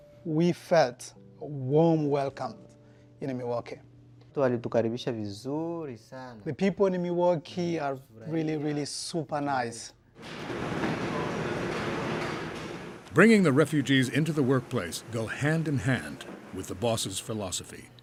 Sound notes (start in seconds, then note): 4.3 speaks in Swahili; 10.2 bakery equipment humming